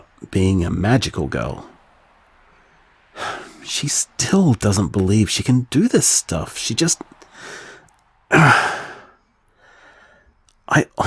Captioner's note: frustrated sigh